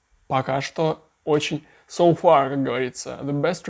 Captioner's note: in English